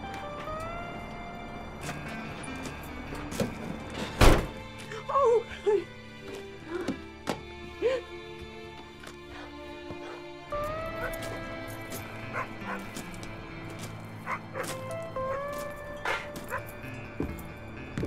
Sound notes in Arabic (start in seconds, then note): 6.3 موسيقى درامية ناعمة; 6.3 نباح الكلب